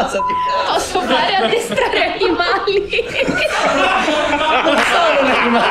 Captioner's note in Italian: Risate